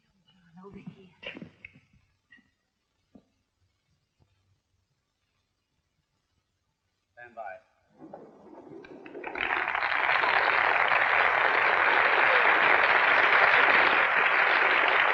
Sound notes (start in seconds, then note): 8.0 applauding